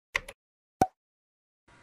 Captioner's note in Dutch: klik; plop